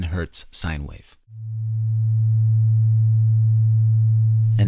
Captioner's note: 110 Hz sine wave playing